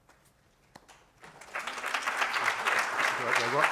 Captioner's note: applause